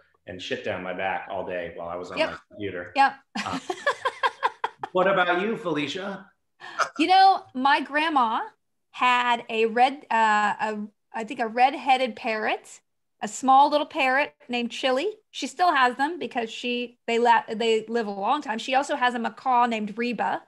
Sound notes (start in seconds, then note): 3.3 she laughs